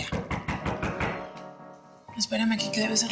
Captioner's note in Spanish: Toques en la puerta